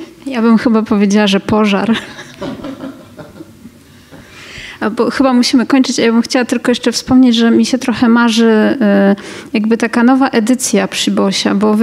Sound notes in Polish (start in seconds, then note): 1.9 śmiech publiczności